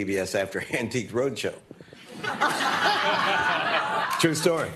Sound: laughter

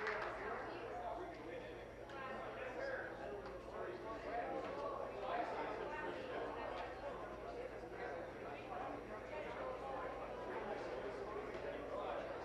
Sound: applause

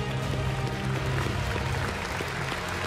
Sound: applause

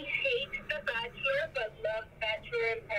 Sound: none

